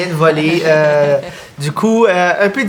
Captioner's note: laughter